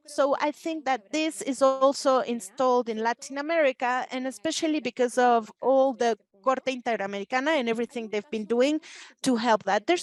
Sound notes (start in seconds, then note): 6.3 speaking Spanish